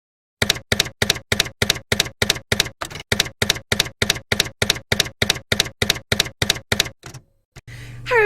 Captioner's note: typewriter keys clacking